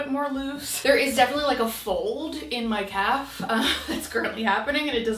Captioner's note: laughing